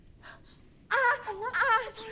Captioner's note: Catherine cries in pain